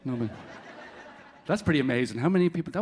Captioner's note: audience laughing